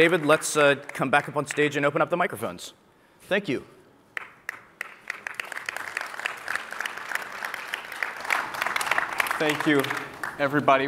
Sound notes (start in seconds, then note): 4.1 applause